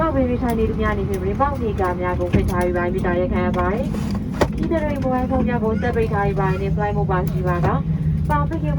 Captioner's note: cabin crew on PA, speaking Burmese